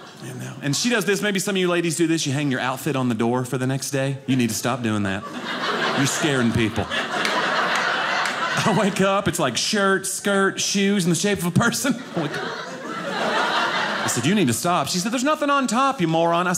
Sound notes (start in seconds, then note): 0.0 audience laughing; 5.0 audience laughing